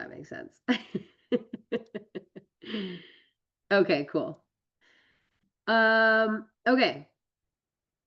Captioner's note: laughs